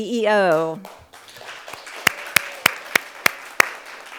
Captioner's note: crowd applauds